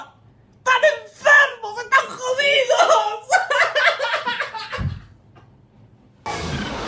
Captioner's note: breaks in tears